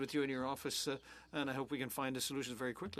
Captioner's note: speaking French